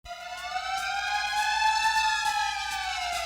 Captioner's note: siren